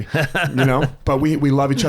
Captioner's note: laughs